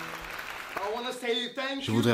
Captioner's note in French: Stevinho parle en anglais; Le commentateur trauduit